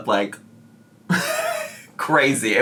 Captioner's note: chuckling